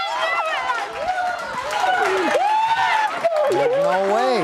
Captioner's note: cheering